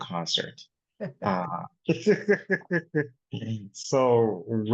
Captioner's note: laughs